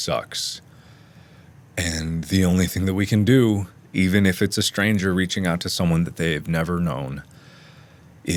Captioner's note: inhale